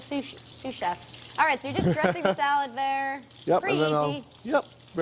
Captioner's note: laughter